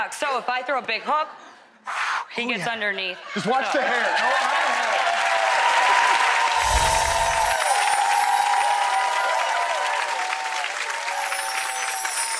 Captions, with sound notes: Gotta duck, so if I throw a big hook, he gets underneath. Just watch the hair, not the hair. (audience applause)